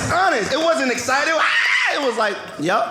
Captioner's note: screaming